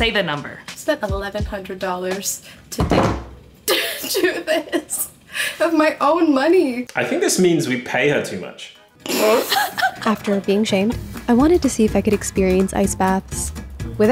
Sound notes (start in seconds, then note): 9.0 group laughing